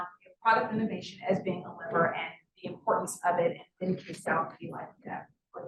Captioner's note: sound distorted